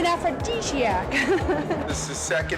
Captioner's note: laughs